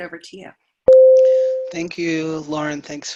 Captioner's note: bell ringing